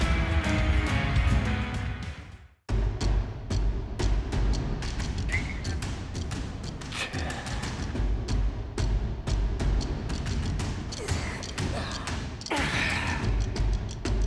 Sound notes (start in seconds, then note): 2.3 upbeat music; 6.6 Seth Rollins grunting; 10.9 Dolph Ziggler grunting